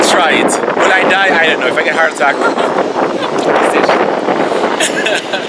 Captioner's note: laughs